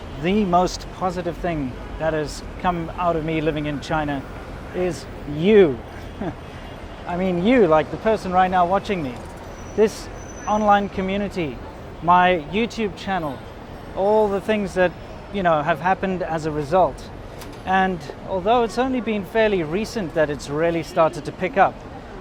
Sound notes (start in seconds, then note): 5.8 chuckles